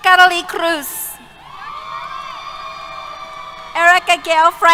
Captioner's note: cheers